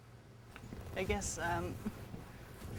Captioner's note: laughs